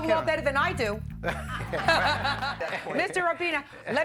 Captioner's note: everyone laughing